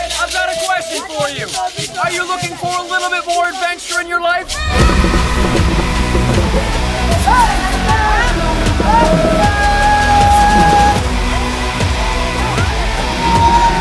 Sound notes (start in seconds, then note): 4.1 upbeat music; 5.3 people chanting; 11.1 upbeat music